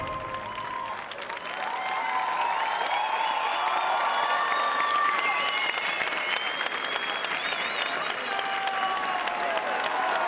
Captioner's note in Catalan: aplaudiments